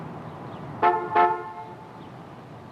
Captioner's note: horn honking